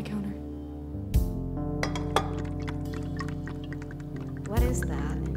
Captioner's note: bottle clinks; Everclear trickling